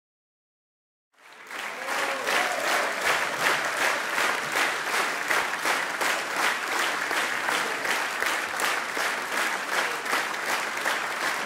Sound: sound of applause

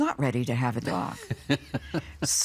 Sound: laughing

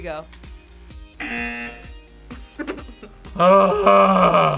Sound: buzzer; both laugh

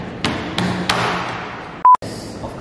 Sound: slapping tables; slaps self

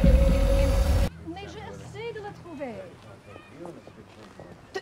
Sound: isabelle speaks french

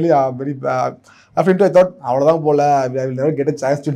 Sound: speaks in Tamil

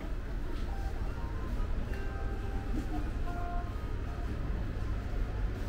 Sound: laughter

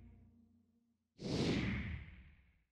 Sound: swoosh

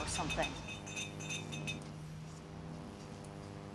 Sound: urn clattering; buzzing

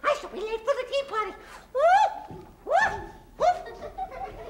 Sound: March Hare shrieking; kids laughing

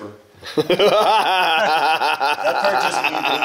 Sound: laughs

